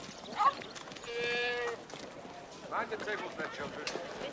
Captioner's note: bleating